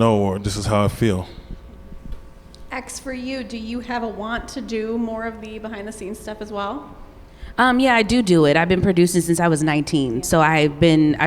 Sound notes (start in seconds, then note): none